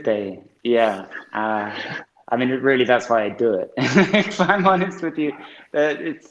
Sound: he laughs

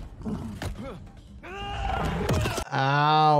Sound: fighter screams

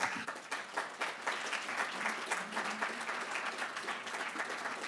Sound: applause

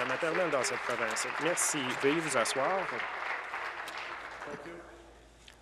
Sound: applause

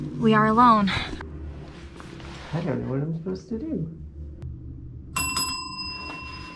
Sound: rings bell

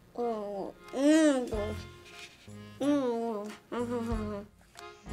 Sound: mumbling inquisitively; mumbling disapprovingly

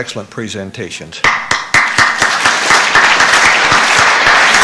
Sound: applause

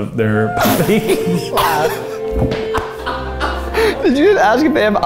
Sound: all laugh

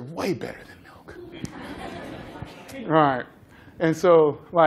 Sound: laughter

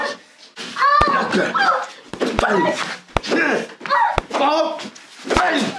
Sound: Crystal cries

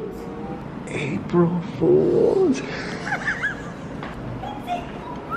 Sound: laughing

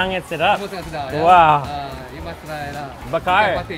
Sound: speaks in foreign language; boss speaks in a foreign language

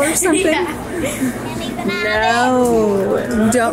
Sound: laughs

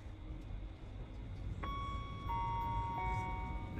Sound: chiming

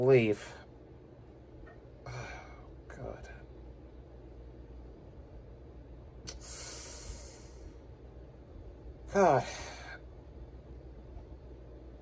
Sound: Ava stammers

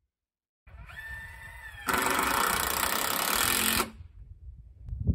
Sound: electric drill sound

